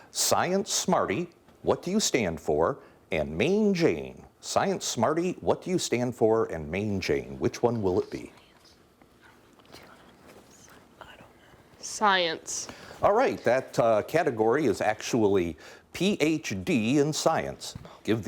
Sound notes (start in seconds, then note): 8.5 whispering